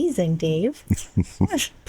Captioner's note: chuckles